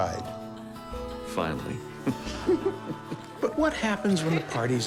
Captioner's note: chuckles